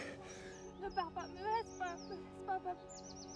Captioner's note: speaks French; suspenseful music